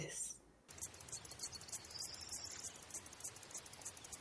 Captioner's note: bird singing